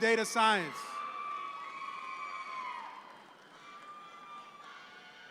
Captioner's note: audience cheer